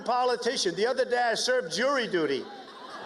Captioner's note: cheers and applause